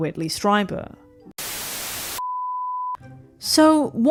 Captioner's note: static